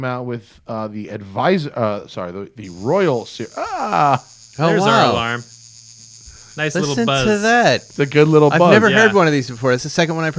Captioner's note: alarm chimes